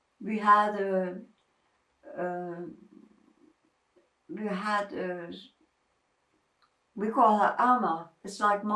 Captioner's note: pauses 6 seconds